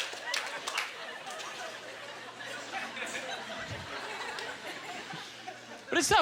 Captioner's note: audience laughter; lingering chuckles